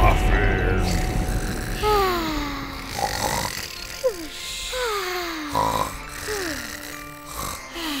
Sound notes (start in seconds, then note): 0.8 snoring